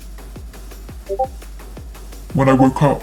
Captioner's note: beep